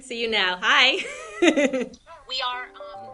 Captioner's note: laughing